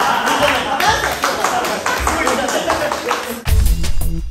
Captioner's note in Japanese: 拍手